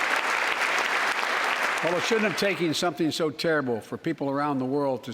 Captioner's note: applause